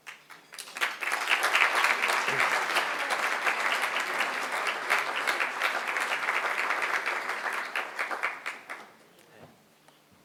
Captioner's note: applause